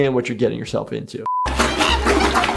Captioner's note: beep; water splashing; Flaky screeching